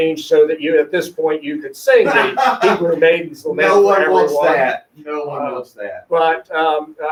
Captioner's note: laughing